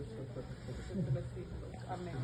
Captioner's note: woman speaking in foreign language